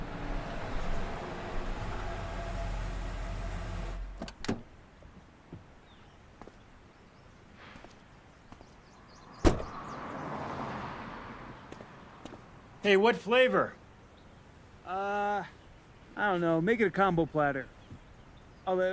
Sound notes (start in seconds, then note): 0.0 car engine humming; 9.4 car door thudding